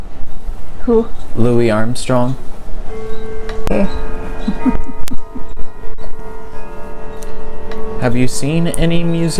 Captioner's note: clock chiming